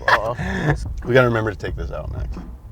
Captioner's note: laughing